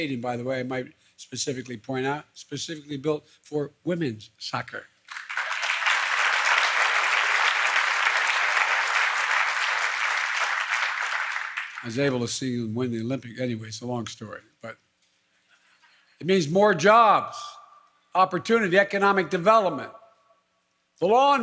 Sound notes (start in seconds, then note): 8.8 applause